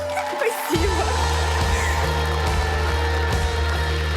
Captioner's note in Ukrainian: оплески